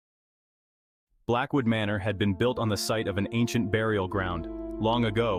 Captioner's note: voice-over